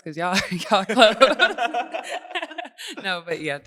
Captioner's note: laughing